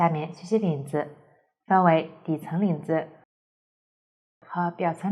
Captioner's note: the sound is gone